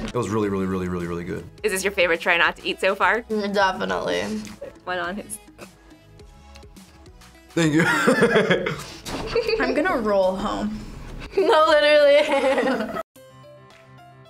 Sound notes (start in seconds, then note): 7.7 laughs; 11.3 laughs